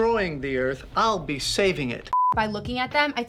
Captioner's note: beeping